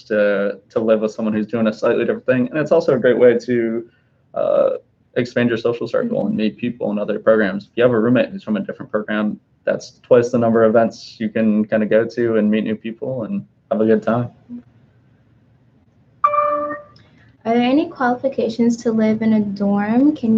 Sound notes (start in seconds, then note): 16.2 computer dings